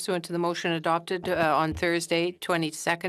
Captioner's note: speaking French